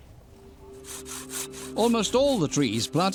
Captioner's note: scraping